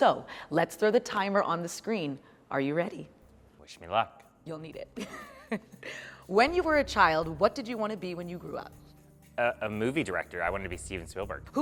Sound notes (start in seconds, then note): 5.0 laughs